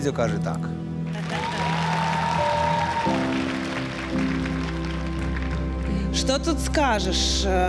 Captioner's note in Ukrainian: оплески